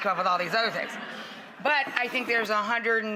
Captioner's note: audience giggles